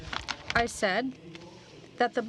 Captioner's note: speaking french